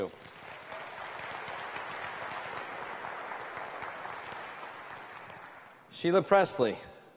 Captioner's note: applause